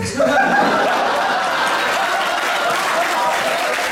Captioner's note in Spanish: risas